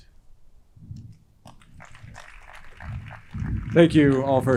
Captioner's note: crowd clapping